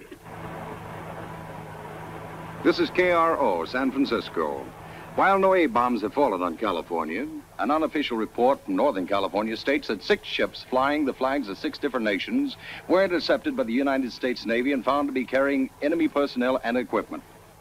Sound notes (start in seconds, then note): 0.3 car engine revving; 2.2 radio Announcer